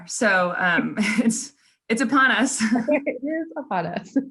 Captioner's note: laughs